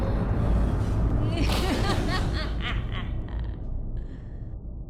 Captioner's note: laugh